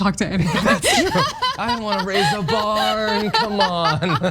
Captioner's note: laugh